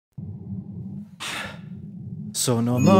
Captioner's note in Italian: sigh